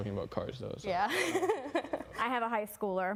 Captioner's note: laughing